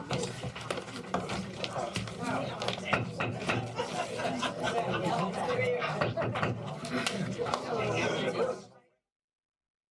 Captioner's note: crowd Noise; gavel banging